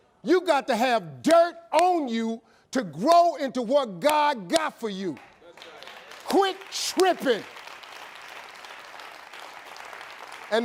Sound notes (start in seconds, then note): 5.9 audience cheering; 7.5 audience applauding